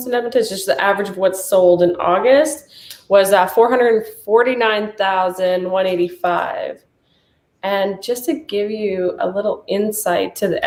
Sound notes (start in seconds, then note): none